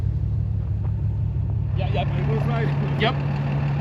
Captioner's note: driver chatters